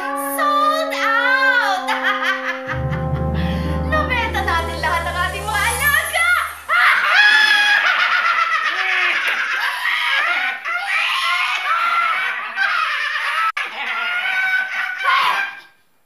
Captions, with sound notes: Sold out! [cackling] We sold all our pets! [all cackling] Hey!